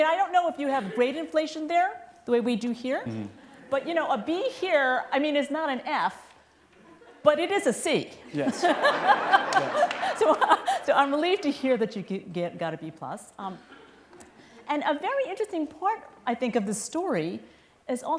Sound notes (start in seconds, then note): 8.3 laughter